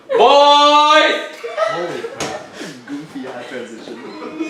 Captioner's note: audience chatting